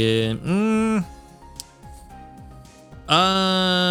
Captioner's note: groans